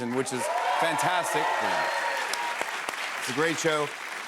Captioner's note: cheers and applause